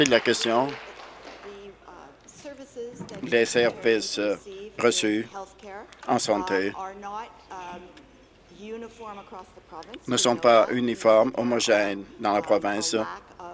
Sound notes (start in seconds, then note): 1.9 applause